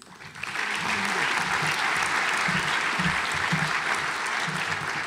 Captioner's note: audience applauds